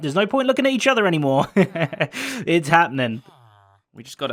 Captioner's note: chuckles